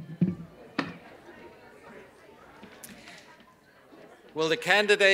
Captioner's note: silence